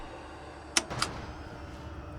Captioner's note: tense music; button clicks